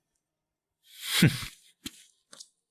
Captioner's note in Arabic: يضحك